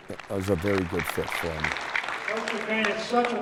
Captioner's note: applause